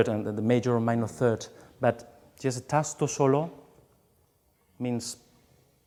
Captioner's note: speaks in foreign language